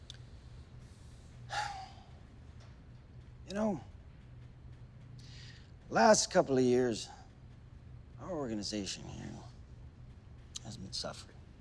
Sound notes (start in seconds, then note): 1.5 sighs